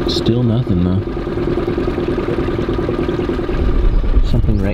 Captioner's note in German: Bootsmotor rumpelt